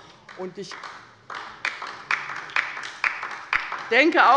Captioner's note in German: Beifall bei der LINKEN